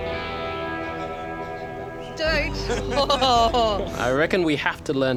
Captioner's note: laughs